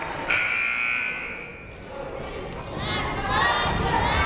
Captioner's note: buzzer blares